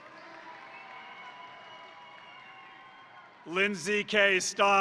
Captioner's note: crowd applauding; crowd cheering